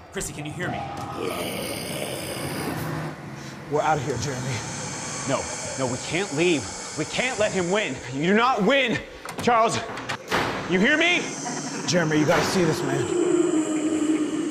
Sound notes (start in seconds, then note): 1.0 growling; 10.1 door slams